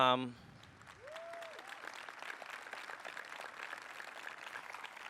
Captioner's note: applause